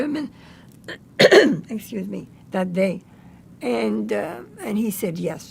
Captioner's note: clears throat